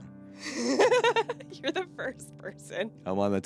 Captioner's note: laughing